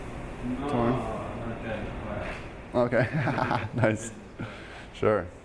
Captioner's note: laughing